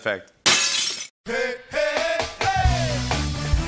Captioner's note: glass breaks